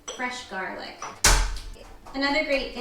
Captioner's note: slamming